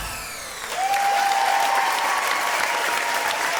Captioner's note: audience applause